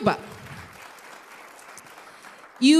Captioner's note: applause